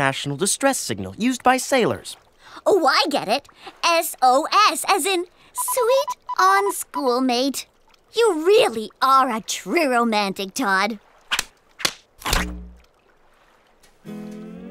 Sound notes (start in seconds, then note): none